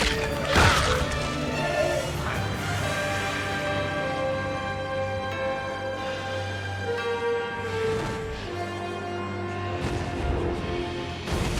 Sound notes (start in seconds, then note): 2.3 bones cracking; 6.3 tense music continues